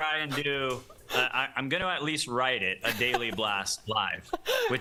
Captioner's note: laughter